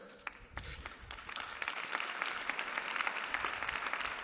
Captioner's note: applause